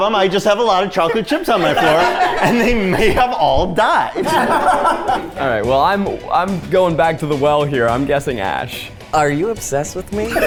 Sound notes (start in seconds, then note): 4.1 Zach laughing